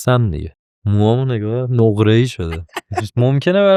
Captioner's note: laughs